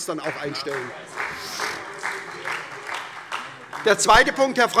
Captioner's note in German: Beifall SPD